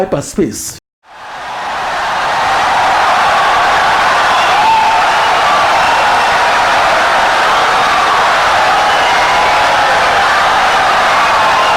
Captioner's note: wild applause and cheering for 17 seconds